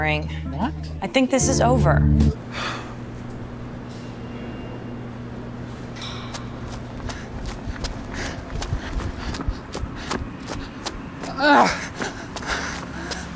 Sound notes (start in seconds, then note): 2.5 Paul sighs; 11.3 Paul groans in pain